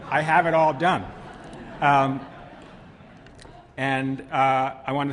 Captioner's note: laughter